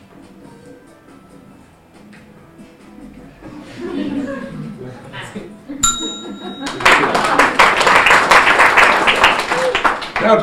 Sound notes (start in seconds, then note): 0.0 slow instrumental music; 3.5 audience laughing; 5.8 bell dinging; 6.2 audience laughing; 6.6 audience applauding